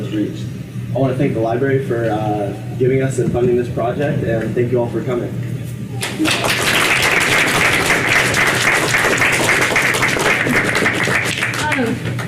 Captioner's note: applause